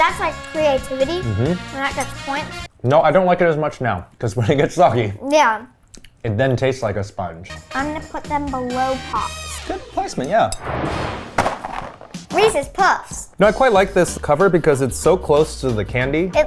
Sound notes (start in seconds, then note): 10.6 animated explosion booming; 10.9 cereal box thudding